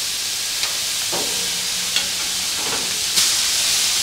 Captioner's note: sizzling